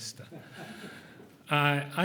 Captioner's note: chuckling